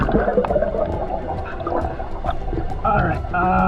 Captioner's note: mask hissing